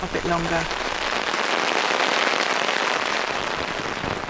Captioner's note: heavy rain